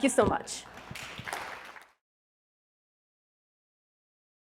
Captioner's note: audience clapping